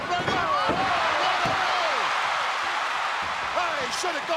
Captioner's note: audience cheering